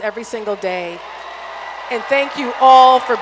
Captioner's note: applause